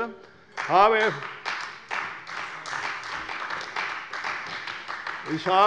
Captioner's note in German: Beifall bei der CDU